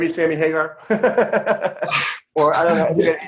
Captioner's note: laughing